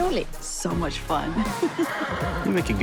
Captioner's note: horse whinnies